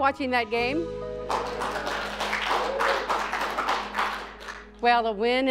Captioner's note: students clapping